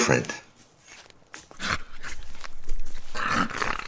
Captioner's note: wolves growling